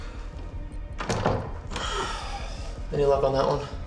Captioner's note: doorknob rattles; Tyler sighs